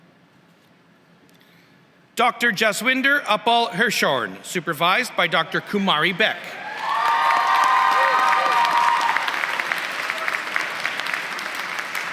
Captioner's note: applause